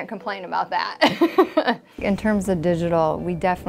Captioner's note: laughter